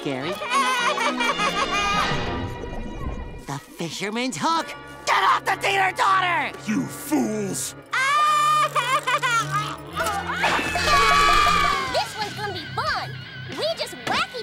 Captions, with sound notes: [laughing] The fisherman's hook. Get off the titter totter! You fools. [laughing] [screaming] This one's gonna be fun. We just whack each other